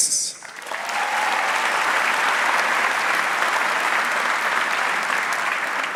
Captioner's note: audience cheering and applauding